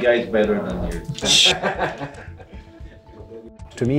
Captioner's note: laughs